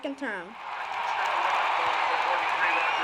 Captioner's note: cheers